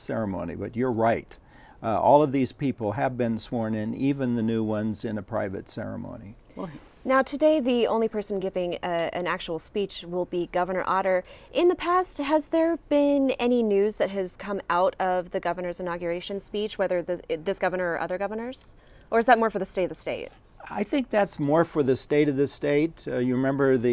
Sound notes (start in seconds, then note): none